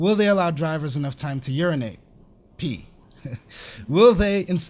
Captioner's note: laughs